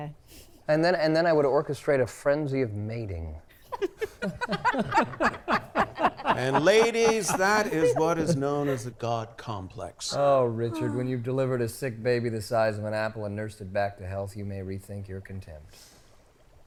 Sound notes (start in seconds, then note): 3.6 laughing